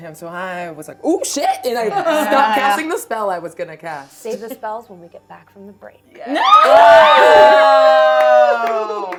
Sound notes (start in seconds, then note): 6.3 screaming